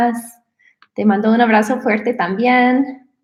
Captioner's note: speaking in spanish